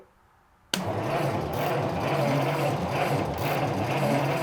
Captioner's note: engine rumbles